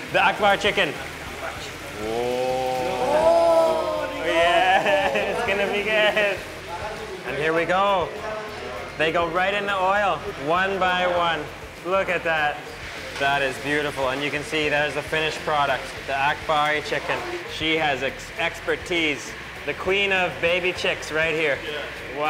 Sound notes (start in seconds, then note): 3.2 speaking foreign language; 4.3 laughing